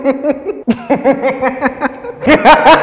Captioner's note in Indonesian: ketawa menular level 2